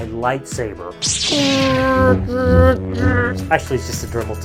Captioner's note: light saber swooshing